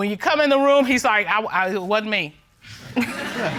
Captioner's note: stutters